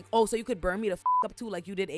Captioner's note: beep